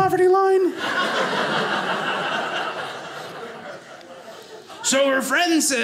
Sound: audience laughing

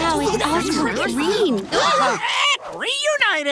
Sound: chattering; gasping, squawking

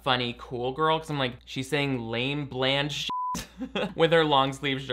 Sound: beep

